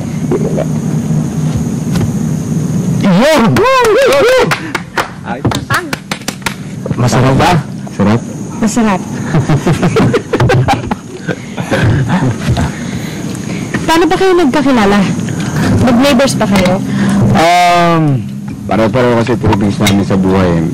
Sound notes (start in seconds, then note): 3.7 clapping, hooting; 9.1 men chuckling